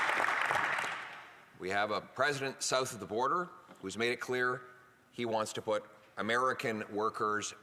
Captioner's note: applause